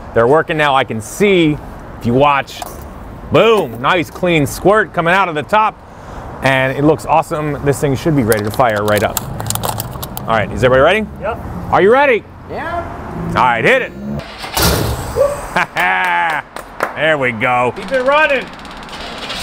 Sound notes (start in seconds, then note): 15.1 laughs